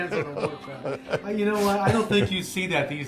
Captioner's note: laughing